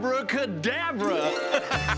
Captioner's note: laughs